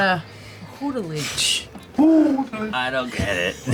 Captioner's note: hoots